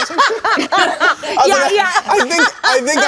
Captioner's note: people laughing